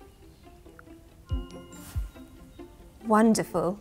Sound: Bethany whispers

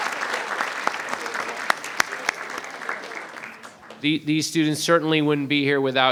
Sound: audience speaking faintly

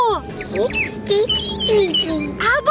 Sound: bird tweeting

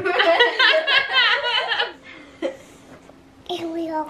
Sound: laughing

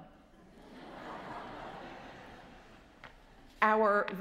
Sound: congregation chuckles

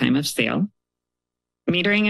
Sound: pause

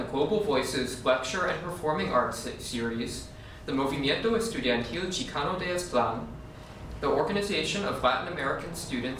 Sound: spanish

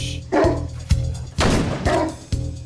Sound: shot blasting; barking

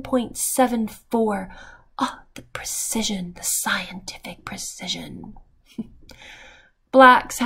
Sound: chuckle

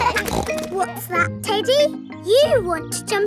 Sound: kids laughing; snorts

